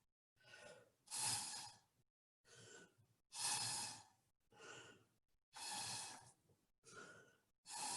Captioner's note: blowing through straw